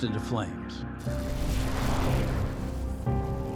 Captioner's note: fire crackling